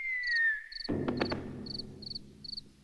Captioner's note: hat hits floor